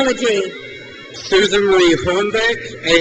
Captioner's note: crowd cheers